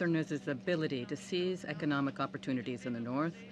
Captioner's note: speaking French